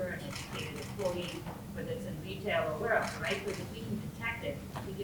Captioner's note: woman speaking faintly